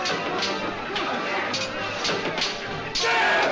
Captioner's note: men Cheer